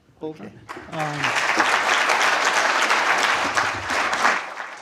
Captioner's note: applause